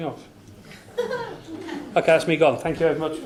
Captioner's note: laughs